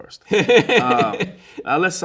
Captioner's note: laughing